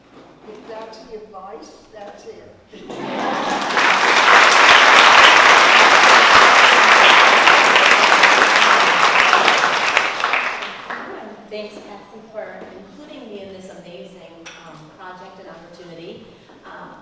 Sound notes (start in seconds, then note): 2.8 laugh; 3.0 applause